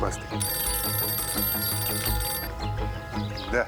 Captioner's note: phone rings